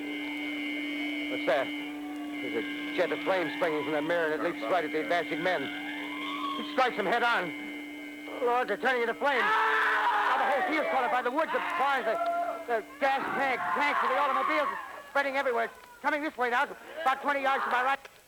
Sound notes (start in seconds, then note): 9.3 scream